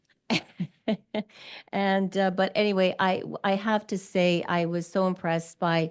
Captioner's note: laughs